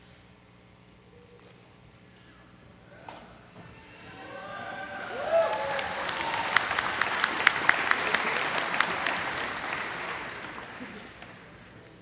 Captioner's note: audience applauding